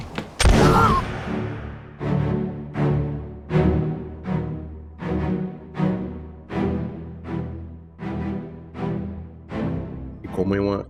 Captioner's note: gunfire sound and Music